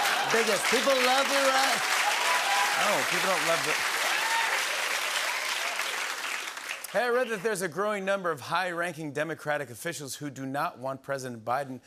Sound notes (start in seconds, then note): 0.0 laughter and applause